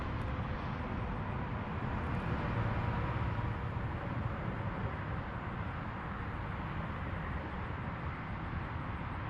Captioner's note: Ambient Imperial Missouri-type traffic noises